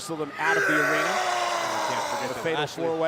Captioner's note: Strowman yells